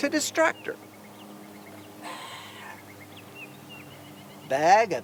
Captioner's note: birds chirping